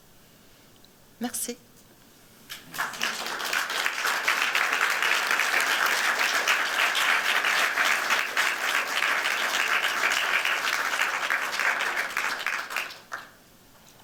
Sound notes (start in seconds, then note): 1.1 non-english speech; 2.5 applause